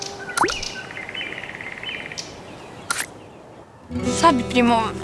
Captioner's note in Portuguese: Pássaros